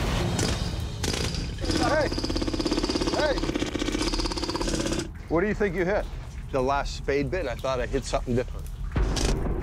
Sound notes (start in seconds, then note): 1.0 jackhammer straining